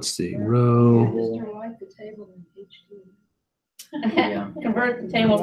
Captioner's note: laugh